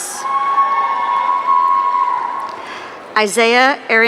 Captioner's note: audience cheering